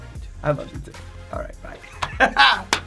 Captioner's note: laughs